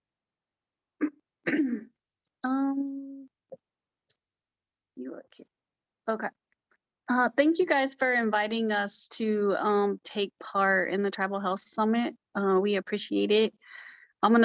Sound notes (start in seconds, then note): 1.4 clears throat